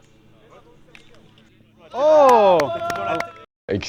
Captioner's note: cheering and Applause